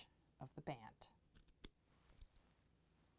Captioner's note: scissor Sounds